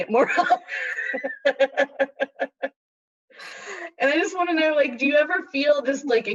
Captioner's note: laughter